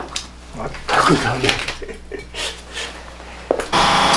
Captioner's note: laughs